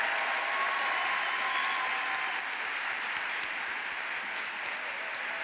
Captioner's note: audience cheers; audience applauding